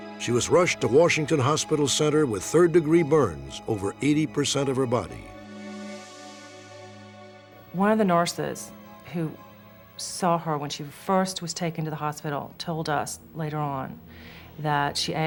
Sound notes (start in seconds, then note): none